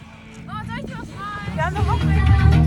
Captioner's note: laugh; speaking German; loud music